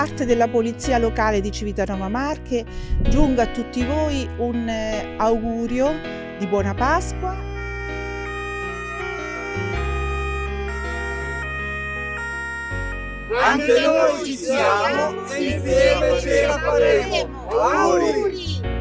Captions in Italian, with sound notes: Da parte della polizia locale di Civitanova Marche giunga a tutti voi un augurio di Buona Pasqua. (Suono di sirene) Anche noi ci siamo e insieme ce la faremo. Auguri!